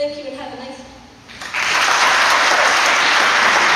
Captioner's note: applause